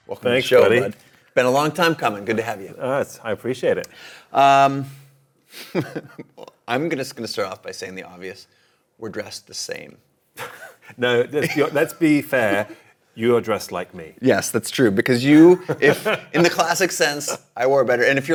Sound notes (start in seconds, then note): 5.7 laughs; 10.4 laughing; 15.3 laughs